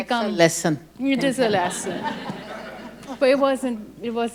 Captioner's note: audience laughs